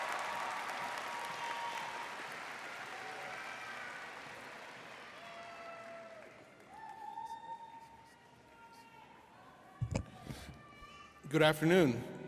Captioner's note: applause